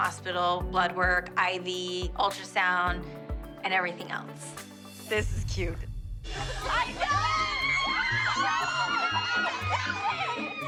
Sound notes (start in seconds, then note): 6.5 all screaming